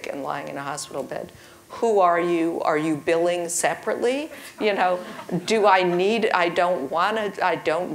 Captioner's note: laugh